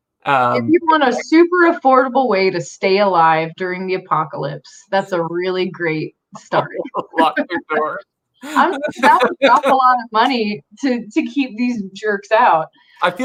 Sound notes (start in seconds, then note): 6.4 both laughing